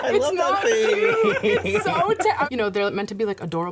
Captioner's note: laughter